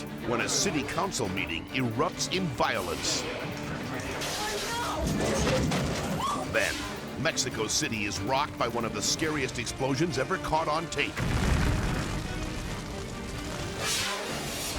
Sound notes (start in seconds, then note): 6.1 onlooker shrieks; 11.1 explosion booms